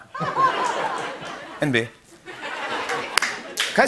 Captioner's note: laughter